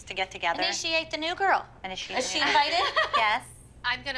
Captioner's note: laughs